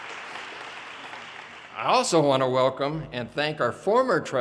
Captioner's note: audience cheers and applause